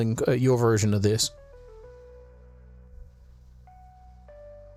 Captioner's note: silence